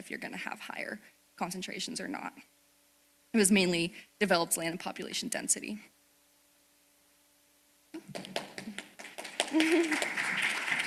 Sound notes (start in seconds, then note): 8.0 applause